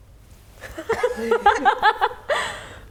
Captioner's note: laughing